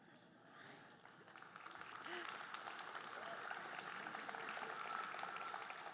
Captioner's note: audience applauding